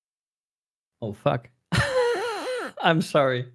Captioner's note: wheezing